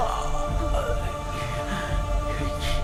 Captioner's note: crying in Pain